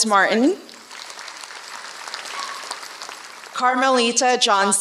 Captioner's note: applause